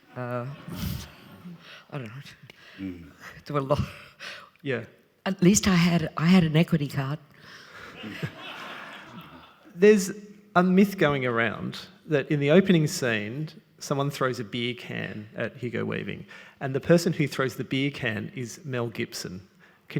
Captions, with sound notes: (audience giggling) I dunno, there were a lot. - Yeah. - At least I had an equity card. (audience laughing) - There's a myth going around that in the opening scene, someone throws a beer can at Hugo Weaving and the person who throws the beer can is Mel Gibson.